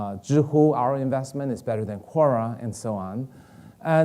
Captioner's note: none